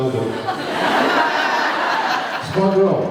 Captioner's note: laughs